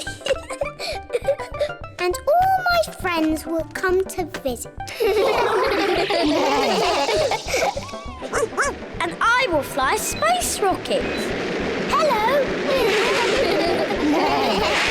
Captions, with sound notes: (LAUGHS) And all my friends will come to visit. (ALL LAUGH) (BARKS) And I will fly a space rocket. -Hello. -(ALL LAUGH)